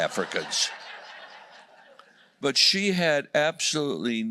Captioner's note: laughter